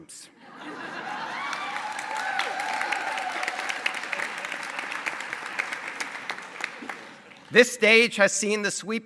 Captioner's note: laughter and cheering